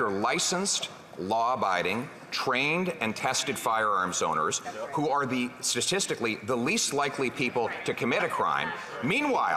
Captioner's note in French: voix de l'interprète